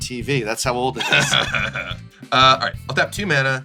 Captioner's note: laughs